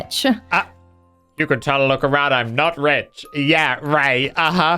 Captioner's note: mocking Voice